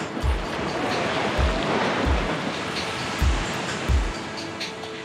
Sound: waves crashing

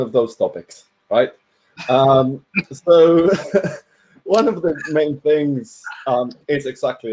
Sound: giggles

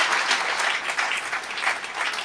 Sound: applause

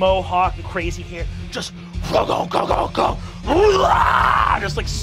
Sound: imitates metal music

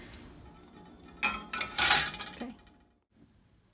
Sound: metal tray clangs

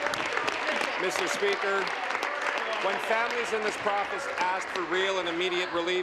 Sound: applause

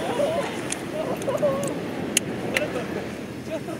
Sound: laughs

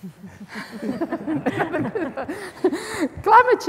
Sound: panelists laughing

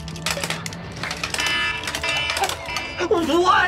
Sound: alarm blares

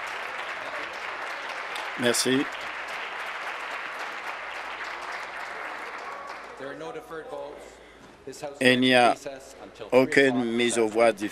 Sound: applause

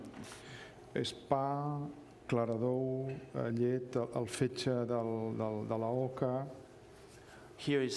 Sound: speaking catalan

